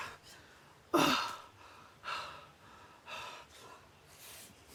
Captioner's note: Arawn breathing heavily